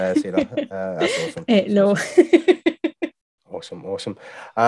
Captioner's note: chuckling